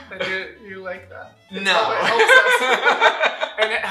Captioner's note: laughter